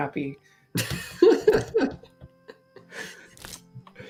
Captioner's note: laughter